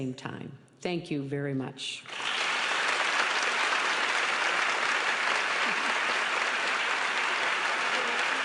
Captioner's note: applause